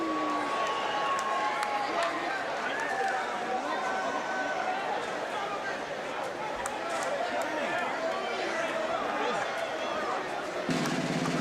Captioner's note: crowd chatter